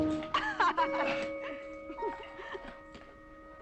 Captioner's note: laughter